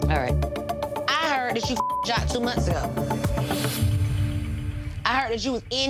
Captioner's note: beep